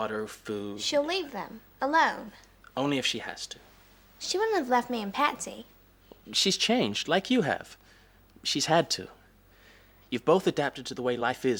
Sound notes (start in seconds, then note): none